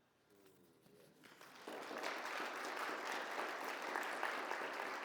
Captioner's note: audience applauds